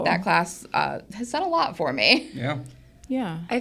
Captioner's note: laughs